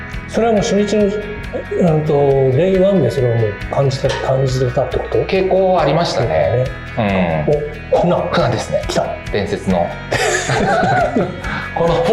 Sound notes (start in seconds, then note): 9.9 laughs